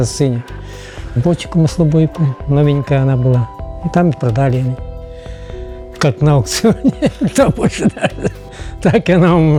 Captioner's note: laughs